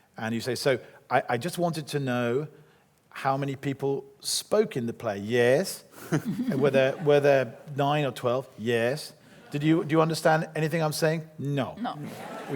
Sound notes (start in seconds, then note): 6.1 laughs